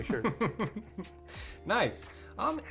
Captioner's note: chuckles